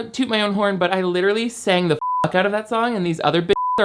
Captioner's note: beep